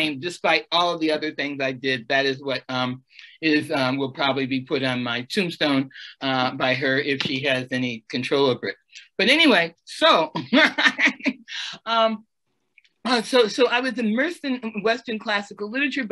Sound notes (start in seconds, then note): 10.3 laughs